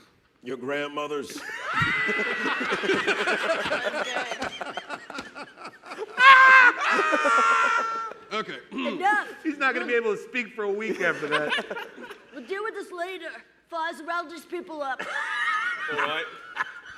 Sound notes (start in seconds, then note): 3.1 laughter; 10.8 laughter